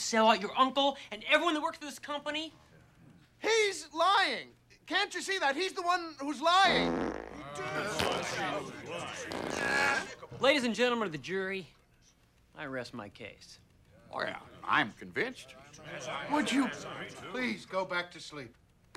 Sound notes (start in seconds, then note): 6.6 farting sounds; 7.3 board members murmuring